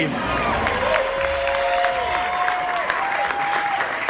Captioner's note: crowd applauds